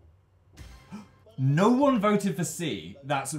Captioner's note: gasp